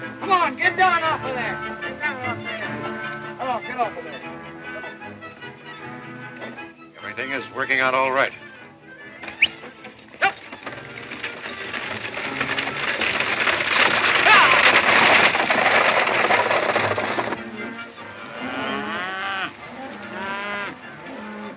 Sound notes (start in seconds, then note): 8.9 whistling; 17.6 cattle moaning